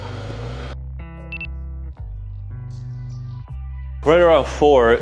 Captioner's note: timer beeps